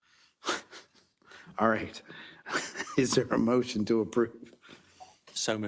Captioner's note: laugh